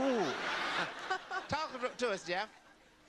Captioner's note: audience laughter